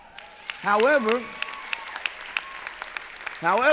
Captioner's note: applause